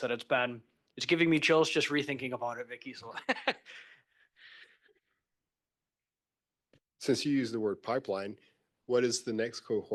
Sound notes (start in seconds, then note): 3.1 laughs